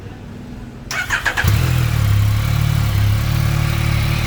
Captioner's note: engine starts